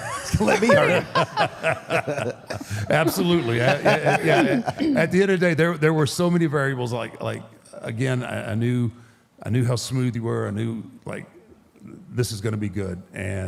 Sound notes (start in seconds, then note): 0.0 all laughs; 4.0 AJ laughs